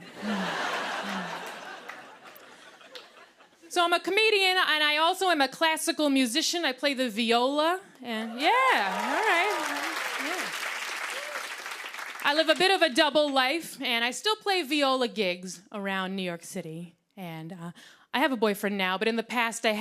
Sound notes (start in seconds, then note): 0.0 laughter and applause; 8.3 cheering and applause